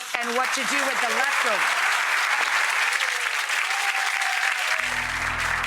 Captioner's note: audience applauding